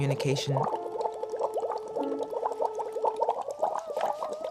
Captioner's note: water bubbling, vocalizing